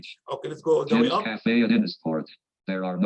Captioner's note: automated Voice